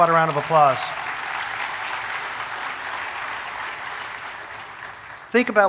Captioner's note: audience applauding